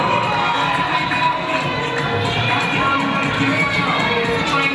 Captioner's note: audience cheering